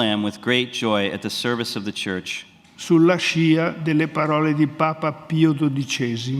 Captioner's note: speaks in Italian; speaks in Italian